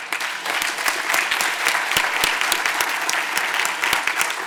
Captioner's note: audience applauding